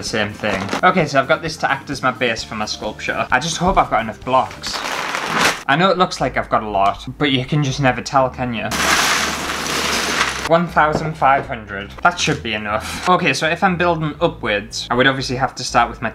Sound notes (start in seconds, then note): 8.7 Lego Clashing